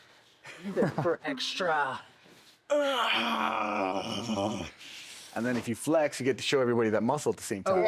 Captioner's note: grunts